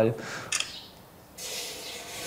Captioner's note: camera click